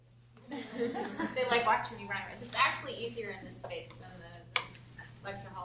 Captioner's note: giggles